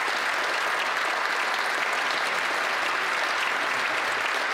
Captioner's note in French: applaudissements